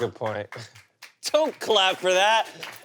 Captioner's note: audience applauds